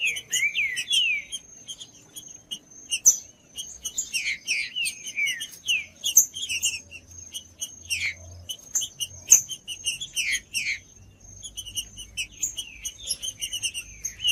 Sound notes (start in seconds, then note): 0.0 trinca ferro cantando; 1.3 trinca ferro cantando; 3.3 trinca ferro cantando; 5.3 trinca ferro cantando; 7.3 trinca ferro cantando; 9.3 trinca ferro cantando; 11.3 trinca ferro cantando; 13.3 trinca ferro cantando